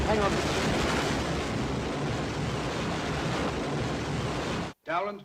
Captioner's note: wind & waves